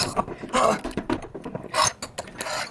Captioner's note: gasping